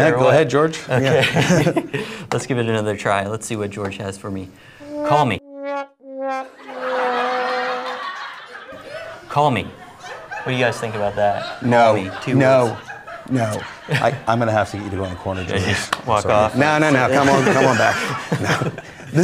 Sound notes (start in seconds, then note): 6.6 laughing; 7.0 slow trumpet sound